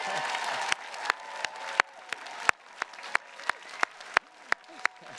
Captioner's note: attendees cheers and claps